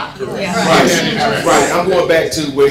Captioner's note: crowd chattering in agreement